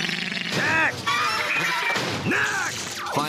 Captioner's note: monster wails; monster chattering